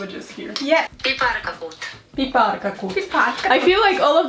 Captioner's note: Google translate voice speaks